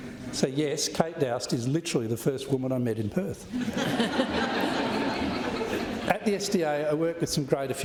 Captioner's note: laughter